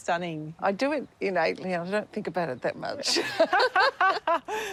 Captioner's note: laughs